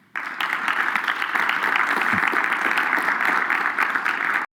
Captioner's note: applause